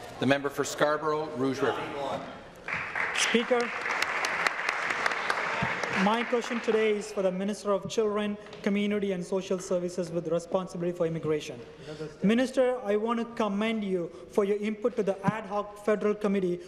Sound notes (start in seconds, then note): 0.0 some Applause; 8.0 some Applause